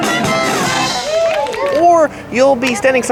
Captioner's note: upbeat band music; audience cheering